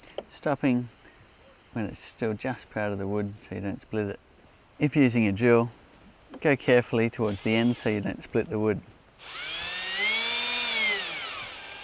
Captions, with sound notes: stopping when it's still just proud of the wood so you don't split it. If using your drill, go carefully towards the end (drill whirring) so you don't split the wood,